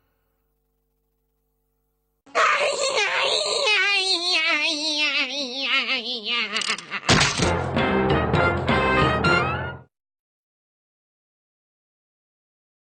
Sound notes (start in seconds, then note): 2.3 whining noises; 7.2 cartoon music plays